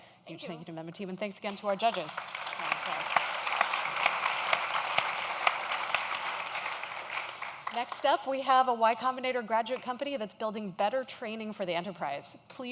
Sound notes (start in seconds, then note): 1.4 audience claps